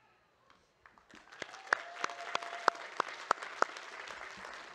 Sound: audience claps

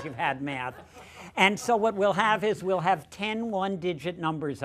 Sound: laughter

